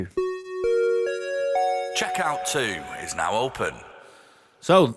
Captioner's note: chime